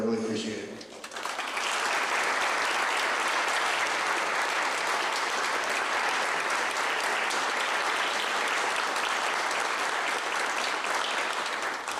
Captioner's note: clapping